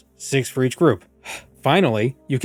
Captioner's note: impatient sigh